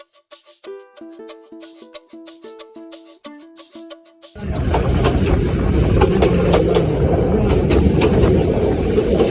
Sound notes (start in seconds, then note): 4.4 railway noise and background commentary